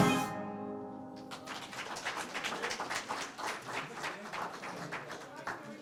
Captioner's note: applause